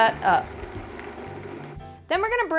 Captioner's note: blender whirring